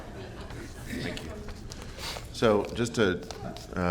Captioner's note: laughter